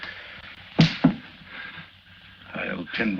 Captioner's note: slap cracks